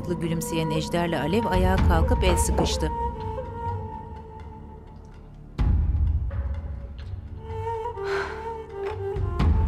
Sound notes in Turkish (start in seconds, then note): 0.0 Müzik - Gerilim; 8.0 İç çekme sesi; 9.1 Müzik - Gerilim